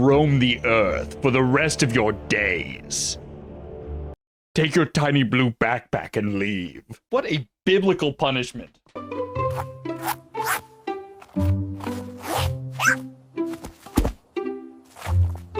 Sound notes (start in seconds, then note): 8.9 uplifting music; 11.7 zipper noises; 12.6 squirrel chirps; 13.9 thunk